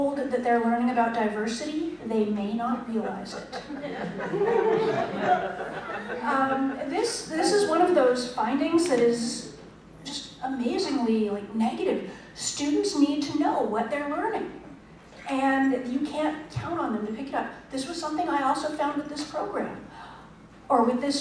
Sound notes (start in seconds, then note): 3.4 laughter